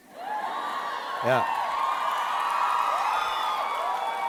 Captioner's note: audience cheering